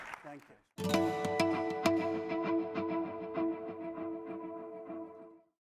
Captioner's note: applause